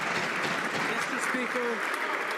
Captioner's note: some Applause